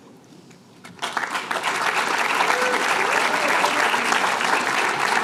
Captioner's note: applause